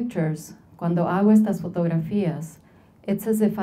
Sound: speaking Spanish

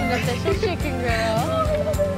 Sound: softly spoken

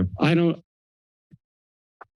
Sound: audio cuts

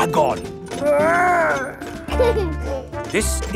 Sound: giggles

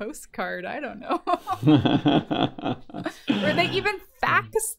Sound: laughter

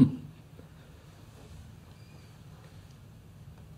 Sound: laughs

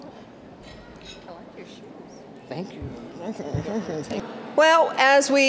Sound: general chatter

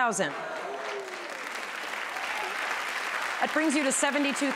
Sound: applause

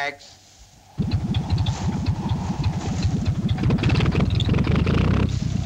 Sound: plane engine buzzing

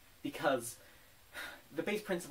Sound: sigh

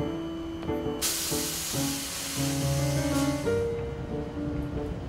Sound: hissing noise from train

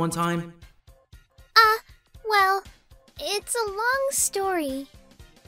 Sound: nervous

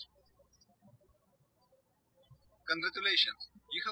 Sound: birds chirping

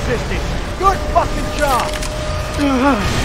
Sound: explosions

